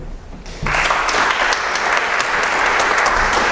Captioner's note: applause